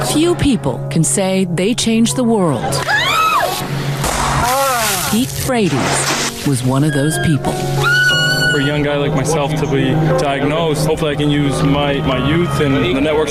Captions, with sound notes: Few people can say they changed the world. [screaming] [water splashing] Pete Frates was one of those people. For a young guy like myself to be diagnosed, hopefully, I can use my youth and the networks